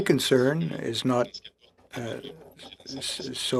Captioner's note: speaking French